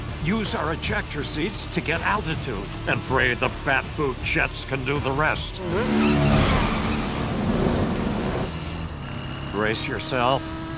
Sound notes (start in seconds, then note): 5.2 tires screeching